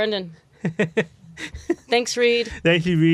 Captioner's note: laughs